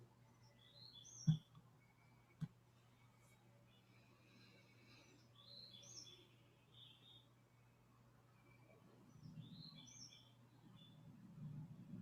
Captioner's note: silence